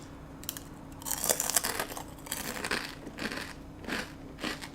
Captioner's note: crunches